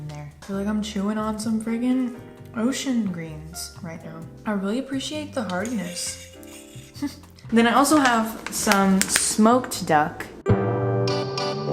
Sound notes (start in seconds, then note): 6.0 laughs